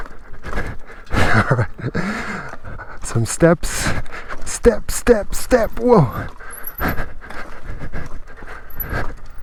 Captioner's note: chuckle